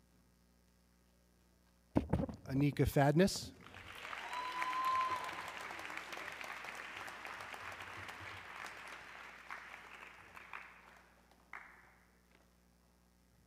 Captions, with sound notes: Anika Fadness, (audience cheering)